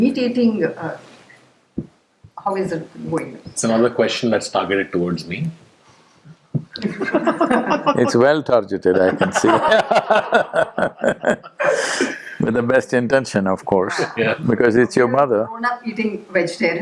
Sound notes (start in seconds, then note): 6.7 laughter; 8.9 laughs